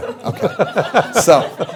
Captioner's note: laughter